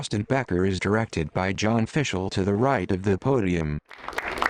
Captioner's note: crowd applauds